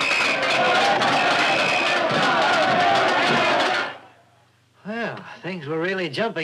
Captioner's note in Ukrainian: свисток, брязкіт чашок